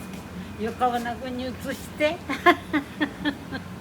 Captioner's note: laugh